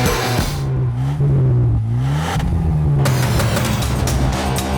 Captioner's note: engines revving; upbeat music